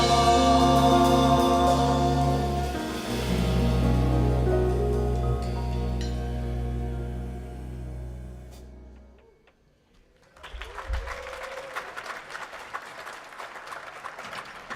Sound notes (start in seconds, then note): 10.2 audience clapping